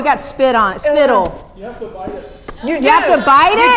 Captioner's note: voiceover